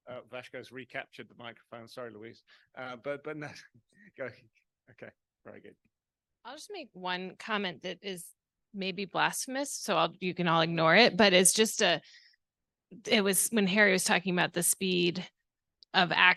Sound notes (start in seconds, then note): 2.8 laughing